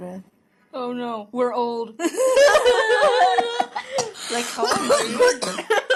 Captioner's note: fake crying... then laughing